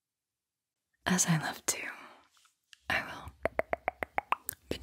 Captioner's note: tongue click